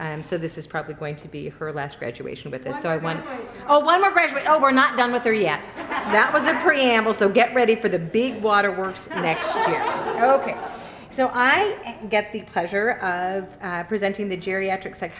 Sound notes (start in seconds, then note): 8.8 laughter